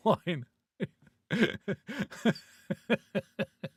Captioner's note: laughing